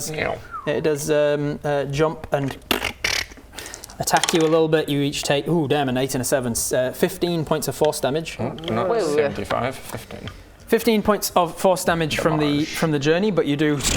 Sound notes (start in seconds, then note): 2.7 glitching noises